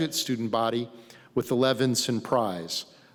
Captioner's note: none